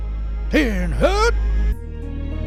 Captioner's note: drill sergeant voice